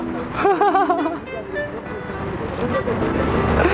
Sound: hahaha, hahaha

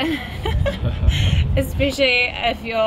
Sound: laughter

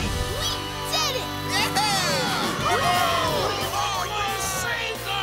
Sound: cheering

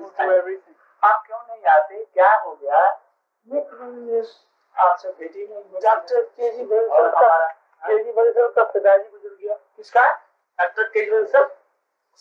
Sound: Hindi

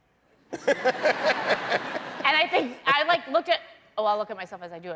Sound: laughter

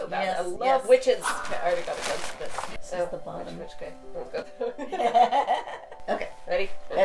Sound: mumbling and laughing, trying to orient throw correctly

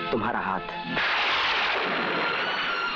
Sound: thunder crashing

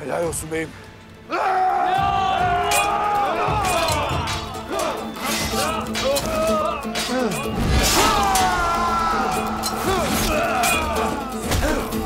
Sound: Savaş sesleri

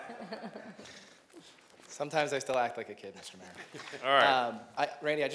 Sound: laughter

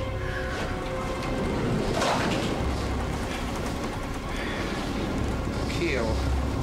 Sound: tense music continues; boat creaking; waves crashing

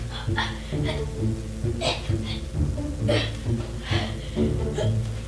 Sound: grunts

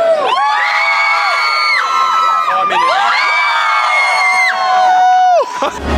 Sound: crowd cheering continues

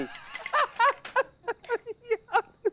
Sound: laughing

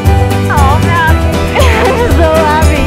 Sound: laughter

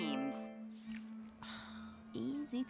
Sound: sigh

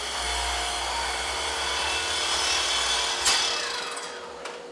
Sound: saw whirring

